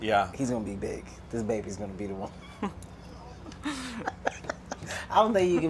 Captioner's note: laughter